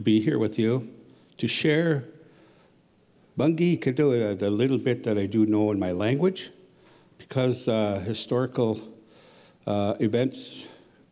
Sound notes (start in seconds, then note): 2.1 speaking Ojibwe